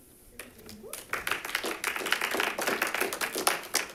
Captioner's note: audience clapping